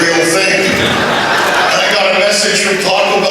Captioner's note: laughter